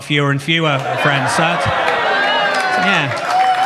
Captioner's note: audience cheers; audience claps